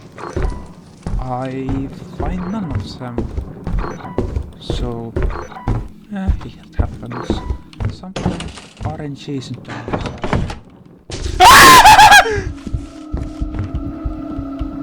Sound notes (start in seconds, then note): 11.3 terrified screaming